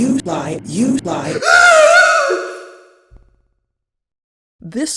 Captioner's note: scream